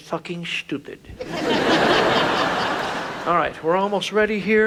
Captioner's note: audience laughs